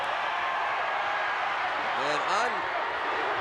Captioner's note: audience cheering